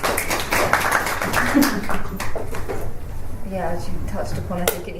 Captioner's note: applause